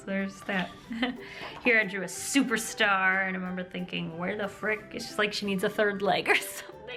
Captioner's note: laughter